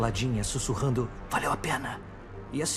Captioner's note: whispers